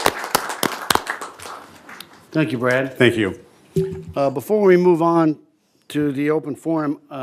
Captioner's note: applause